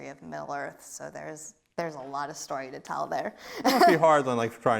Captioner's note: laughs